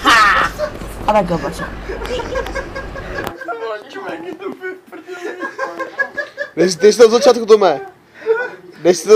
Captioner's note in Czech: záchvat smíchu